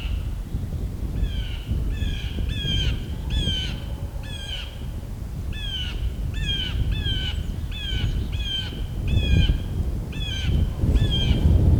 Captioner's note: birds